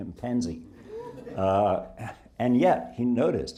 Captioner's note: audience laughing